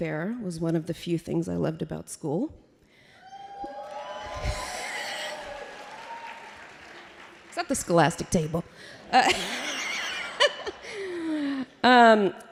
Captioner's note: applause